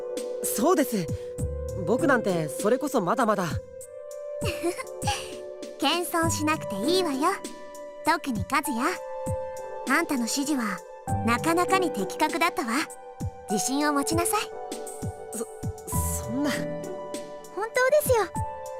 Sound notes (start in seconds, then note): 4.4 laugh